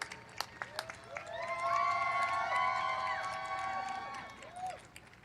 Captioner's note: cheering